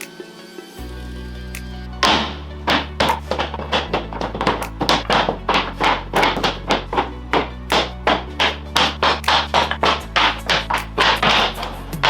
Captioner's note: banging